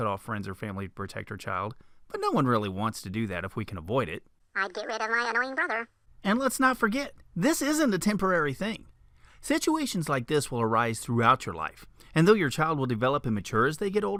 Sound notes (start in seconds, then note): 4.5 funny voice; 6.2 man's voice